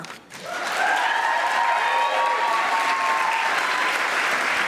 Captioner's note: audience applauding